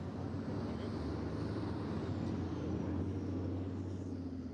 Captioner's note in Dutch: het verkeer brult